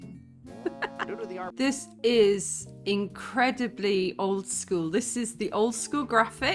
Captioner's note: laughing